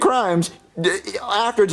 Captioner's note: Junior stuttering